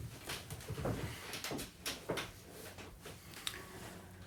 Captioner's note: chair squeaking